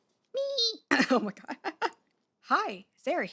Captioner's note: voice cracks